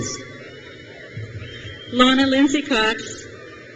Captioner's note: crowd cheers